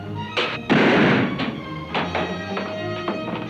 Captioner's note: gun bangs; exciting music